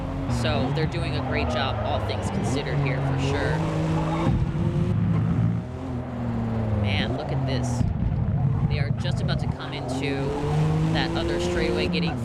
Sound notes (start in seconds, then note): 3.7 engines roaring